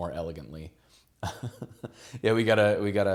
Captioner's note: laughs